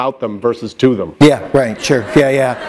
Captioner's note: laughter